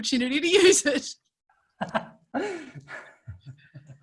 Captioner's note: laughing